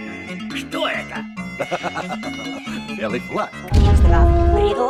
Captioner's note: laughs